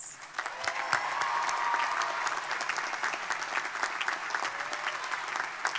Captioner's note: crowd applauding; crowd cheering